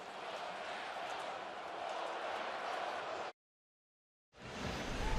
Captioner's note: crowd chanting